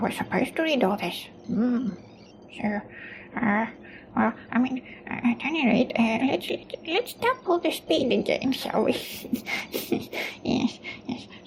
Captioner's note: snorts